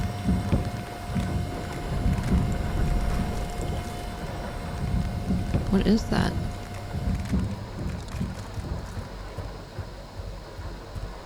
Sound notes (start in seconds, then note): 0.2 something smashes; 2.2 unknown sound, perhaps walking on shingles above; 8.7 walking and banging above